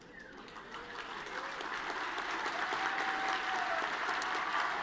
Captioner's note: audience cheering and lapping